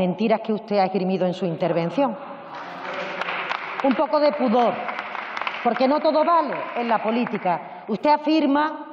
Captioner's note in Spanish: Risas.-Aplausos